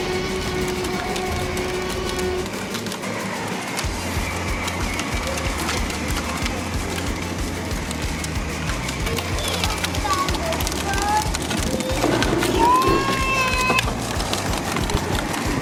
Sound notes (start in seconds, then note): 3.2 dinosaurs growl; 12.4 child shouts